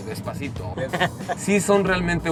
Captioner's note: laughter